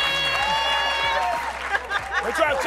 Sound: laughter

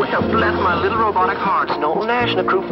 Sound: robotic voice

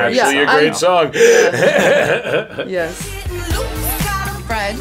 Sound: laugh

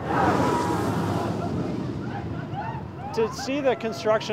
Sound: roller coaster car whooshes

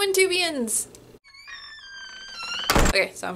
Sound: sound of door slamming shut

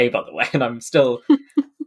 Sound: laughs

